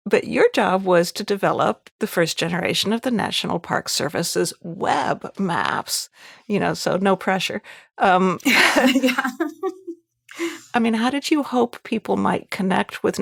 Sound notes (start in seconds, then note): 8.5 both chuckling